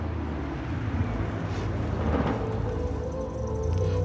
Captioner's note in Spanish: ruido del vehículo